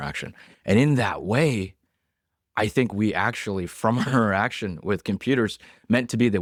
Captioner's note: laughs